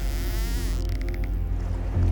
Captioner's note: dolphins clicking